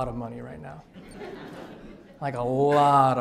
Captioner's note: audience laughs